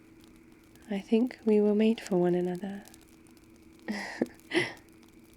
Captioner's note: laughs